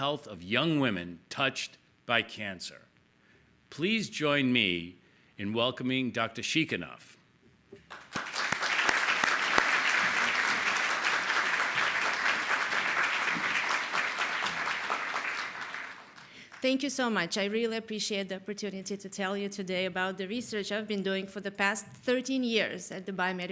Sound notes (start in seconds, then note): 6.2 applause